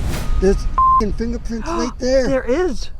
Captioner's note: beep